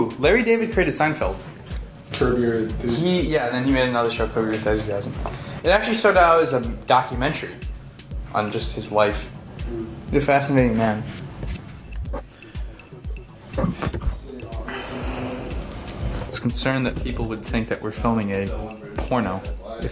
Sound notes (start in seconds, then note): 14.6 exhales